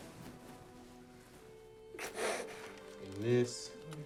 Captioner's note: Lance sobbing